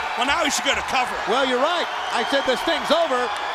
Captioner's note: crowd cheering